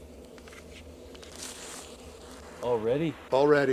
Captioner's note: static crackling